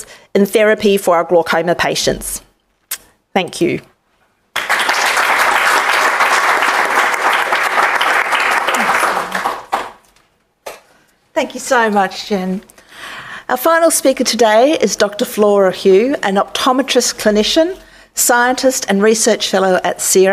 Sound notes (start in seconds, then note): 7.5 applause